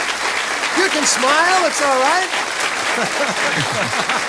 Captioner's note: applause; laughs; applause